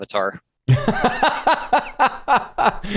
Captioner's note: laughter